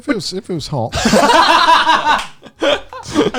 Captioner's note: laughs